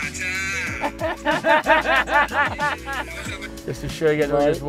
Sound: laughter

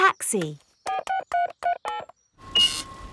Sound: dialing; cash register beeping

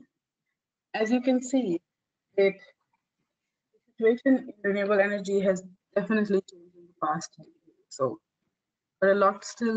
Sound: audio static

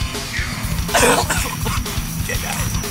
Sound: coughing; heavy metal music

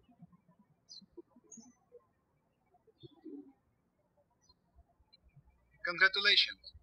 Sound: birds chirping

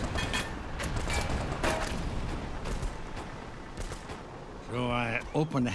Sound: metal clanging from gunfire; gunfire exploding

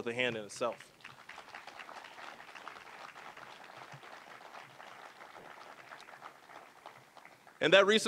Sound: applause

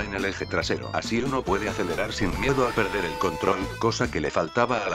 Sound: Even more Gran-Turismo Car Noises

